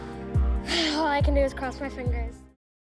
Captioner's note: huffs